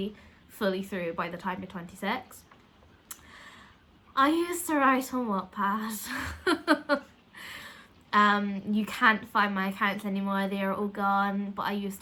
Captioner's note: laugh